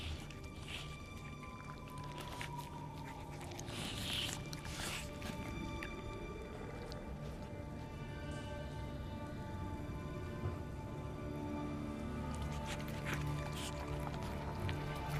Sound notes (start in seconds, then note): 3.2 slurping; 11.8 rapid eating